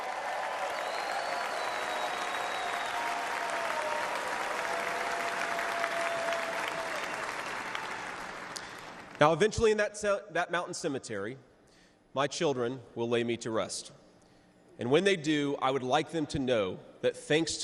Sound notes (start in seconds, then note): 3.9 cheers and applause